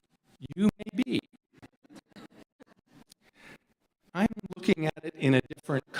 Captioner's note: audience chuckles